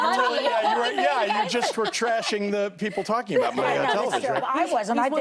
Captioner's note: laughter